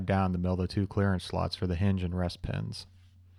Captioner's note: none